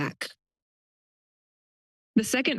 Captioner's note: pause